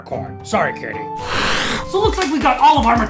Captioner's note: cat hisses